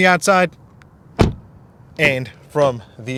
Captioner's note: door closing